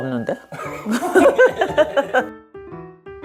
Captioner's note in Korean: 웃음